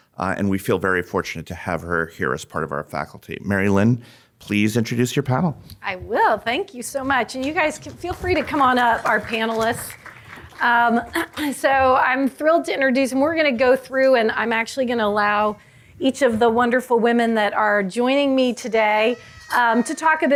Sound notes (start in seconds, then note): 9.9 audience clapping